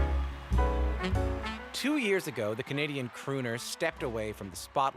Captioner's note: cheers and Applause